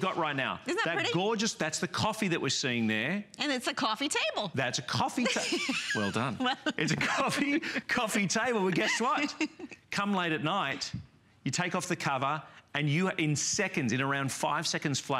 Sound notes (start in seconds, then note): 9.1 laughter